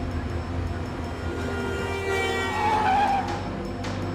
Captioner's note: honking